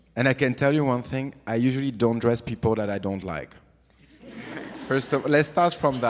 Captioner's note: audience laughs